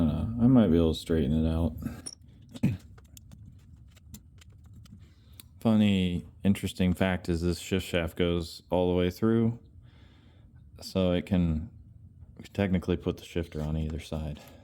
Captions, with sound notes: know, I might be able to straighten it out. [silence] Funny, interesting fact is this shift shaft goes all the way through, so it can technically put the shifter on either side.